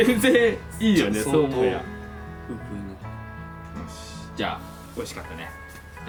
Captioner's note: laughs